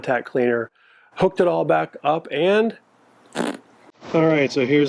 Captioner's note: blows raspberry